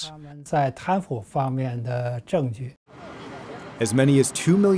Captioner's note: speaking foreign language